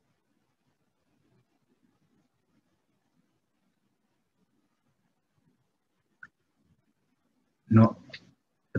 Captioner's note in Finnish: hiljaisuus